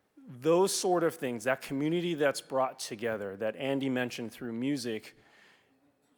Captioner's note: none